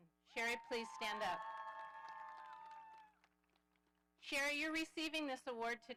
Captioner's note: audience applauding